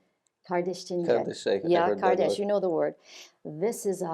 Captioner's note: speaking in Turkish